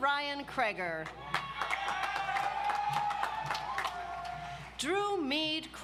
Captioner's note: audience applauds